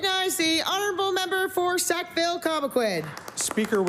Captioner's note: applause